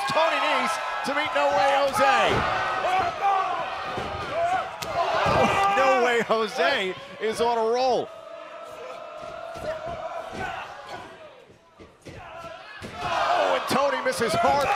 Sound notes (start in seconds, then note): 6.8 crowd cheering; 9.2 crowd chatter